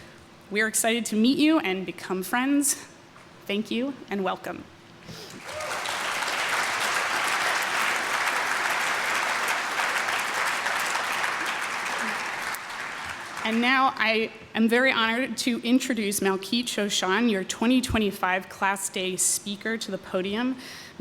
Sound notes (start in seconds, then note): 5.3 applause